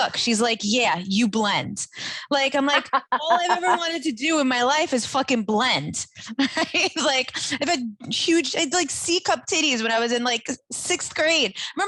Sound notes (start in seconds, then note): 2.5 laughing